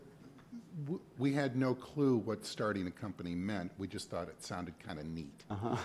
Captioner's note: laughs